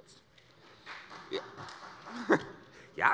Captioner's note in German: Beifall des Abg